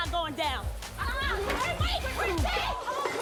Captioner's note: women yelling